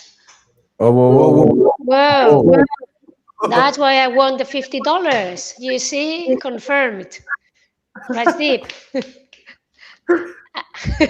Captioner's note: laughter